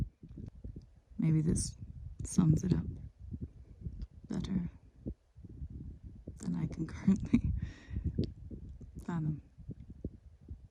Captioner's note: chuckles